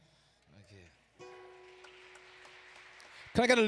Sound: applause

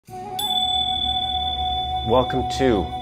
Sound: bells tinkling

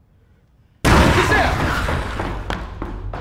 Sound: big bang, running footsteps

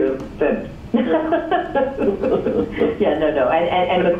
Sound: laughter

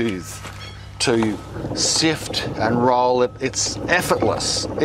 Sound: sifter rattles

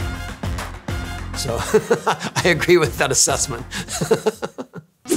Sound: laughs

